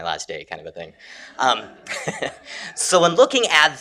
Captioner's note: laughter